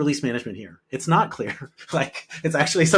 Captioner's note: laughing